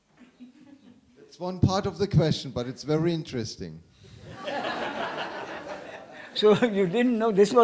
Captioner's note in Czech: smích